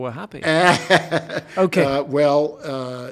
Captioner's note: laughing